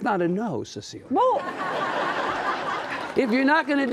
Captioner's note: audience laughing